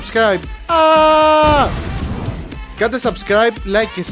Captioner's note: explosion